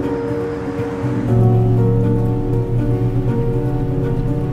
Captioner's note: vehicle revving